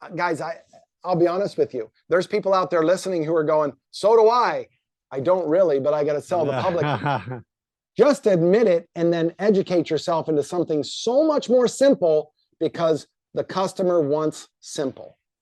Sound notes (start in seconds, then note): 6.3 laughing